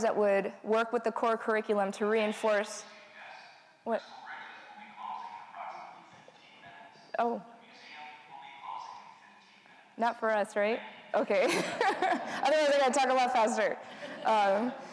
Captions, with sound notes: that would work with the core curriculum to reinforce, what? - [PA System] Crystal Bridges will be closing in approximately 15 minutes. - Oh. - [PA System] The museum will be closing in 15 minutes. - Not for us, right? Okay, (laughs) otherwise I've got to talk a lot faster.